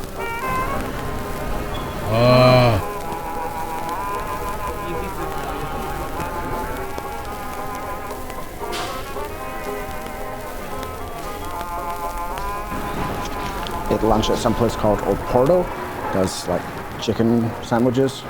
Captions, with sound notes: [Neanderthal style grunt] Ate lunch at some place called Oporto, does like chicken sandwiches.